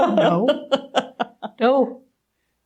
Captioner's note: continuing to laugh; laughing